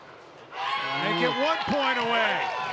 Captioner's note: audience cheering and clapping